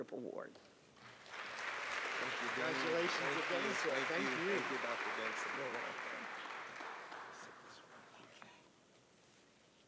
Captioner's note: applause